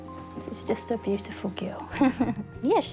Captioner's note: chuckles